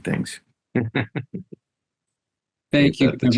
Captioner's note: laughs